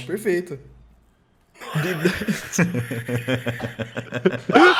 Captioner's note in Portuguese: Todos riem